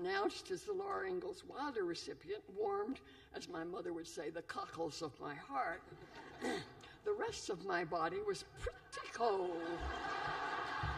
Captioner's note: laughter